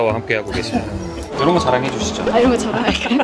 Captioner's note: ding sound effect; laughter